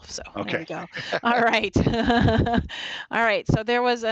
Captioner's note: laughs